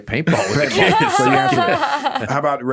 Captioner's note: laughing